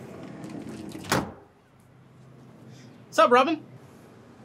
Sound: sliding door clicking

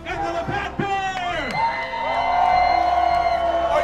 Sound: crowd screaming and cheering

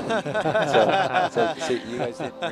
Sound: group laughs

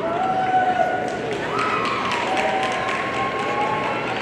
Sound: audience cheering

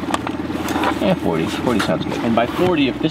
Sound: gadget cracking; boat vibrating

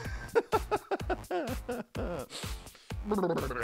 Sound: energetic music; laughs

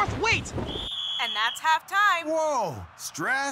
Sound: whistle blowing

